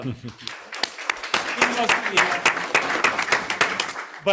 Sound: group applauds

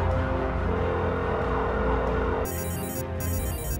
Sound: dramatic music; phone ringing

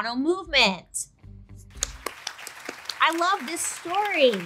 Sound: crowd applauding

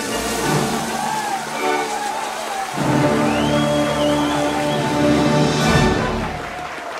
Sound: cheering and applause; music ends

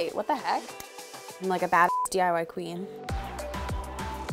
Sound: beep; pop music

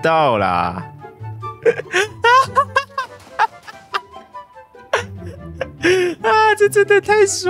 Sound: laughs to death

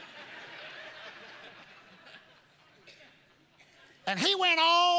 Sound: congregation laughing

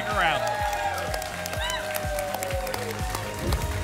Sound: applause and cheering cont; whoosh

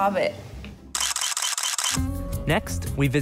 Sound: camera shutter clicking

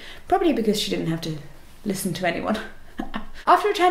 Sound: laugh

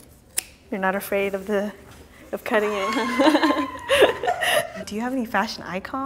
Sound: laughing

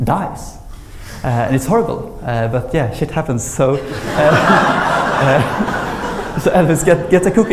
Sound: laughter

